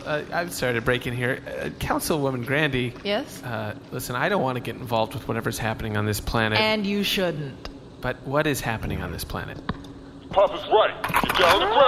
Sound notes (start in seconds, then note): 6.6 politely, firmly